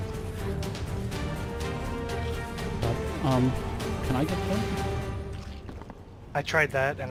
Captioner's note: under his breath